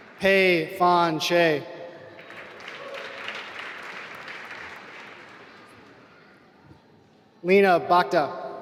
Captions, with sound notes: Pei Fan Hsieh (applause) Leena Bhakta